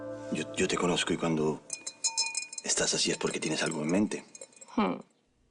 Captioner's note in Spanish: Repiquetea en la copa